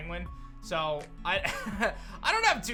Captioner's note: chuckles